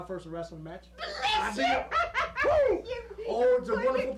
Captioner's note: granny screaming